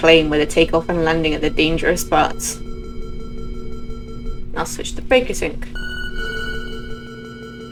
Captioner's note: second alarm starts beeping